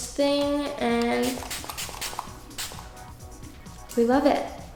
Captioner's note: bottle spritzing